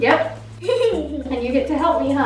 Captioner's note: laughing